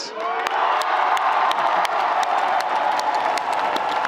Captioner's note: audience applauding